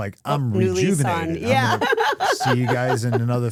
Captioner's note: laughs